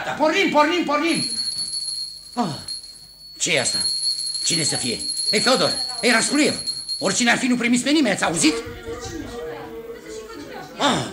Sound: bell rings at the door

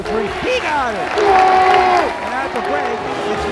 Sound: crowd cheering

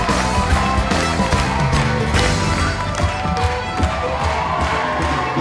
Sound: applause

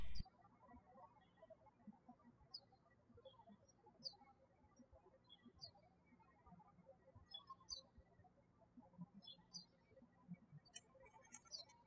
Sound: birds chirping

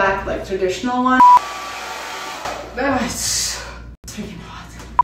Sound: blow dryer whirring

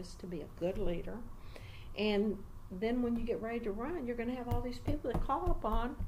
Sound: resumes tapping table

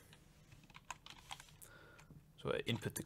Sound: keyboard keys click

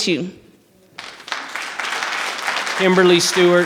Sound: audience applause

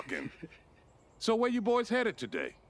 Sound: laughing

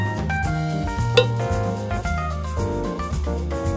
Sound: popping

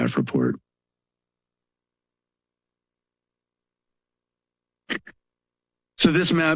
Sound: pause

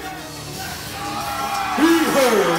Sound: audience cheering

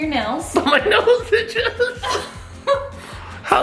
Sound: laughing

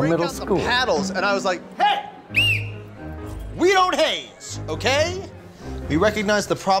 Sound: blows whistle

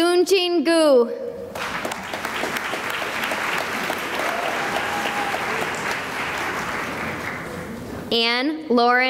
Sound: applause

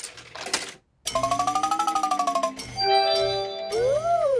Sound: beeps and chimes

